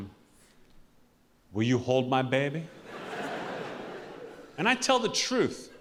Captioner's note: audience laughing